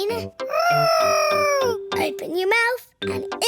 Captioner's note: imitating aeroplane